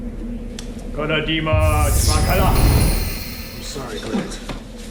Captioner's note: speaking foreign language